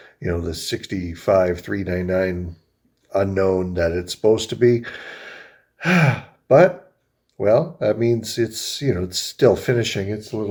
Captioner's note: sighs